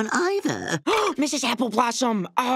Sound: gasping

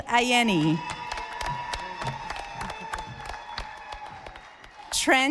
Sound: audience applauding

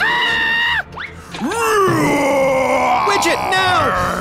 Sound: roaring

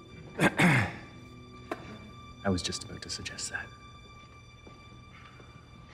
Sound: clears his throat

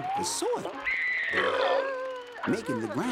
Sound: screaming, belching

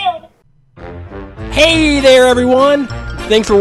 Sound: voiceover

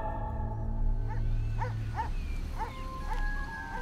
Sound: dog barking

